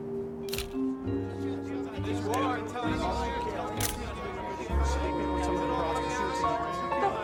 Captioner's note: camera clicks; reporters chatter